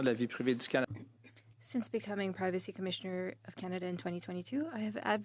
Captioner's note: speaking French